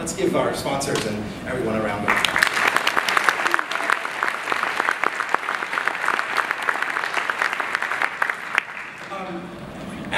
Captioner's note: applause